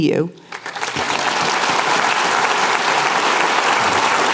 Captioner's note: applause